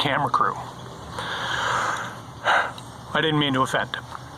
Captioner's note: sighs